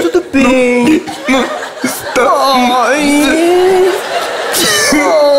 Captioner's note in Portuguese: engasga; choro